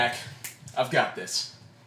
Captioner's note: snap